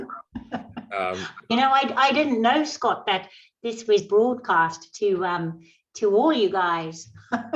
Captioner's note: laughs; laughs